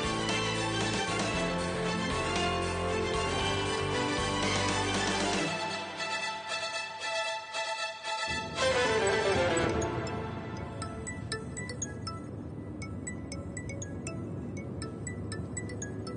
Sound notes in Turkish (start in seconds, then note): 8.2 gerilim müziği biter; 9.1 telefon çalar